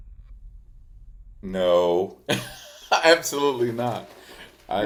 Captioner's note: laughs